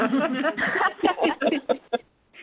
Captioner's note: laughter